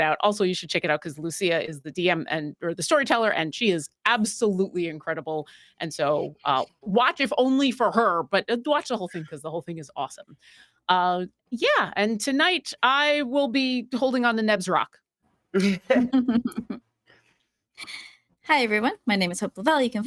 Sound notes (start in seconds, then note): 15.6 everyone giggling